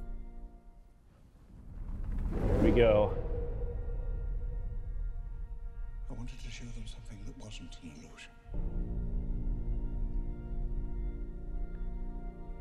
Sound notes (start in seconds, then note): 1.2 ground rumbling; 9.9 intense music